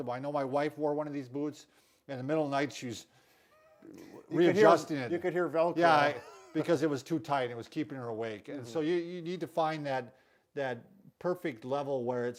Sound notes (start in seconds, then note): 5.8 chuckling